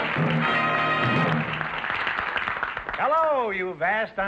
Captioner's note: music & applause; applause